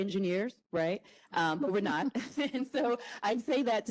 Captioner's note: laughs